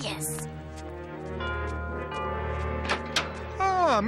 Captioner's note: doorbell ringing